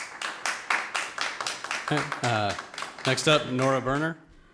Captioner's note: audience applauds